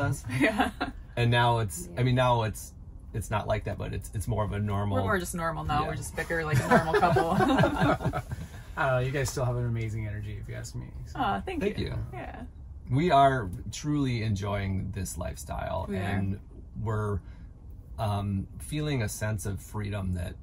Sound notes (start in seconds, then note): 6.5 laughing